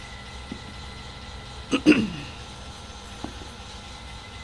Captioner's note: Alcheist clears his throat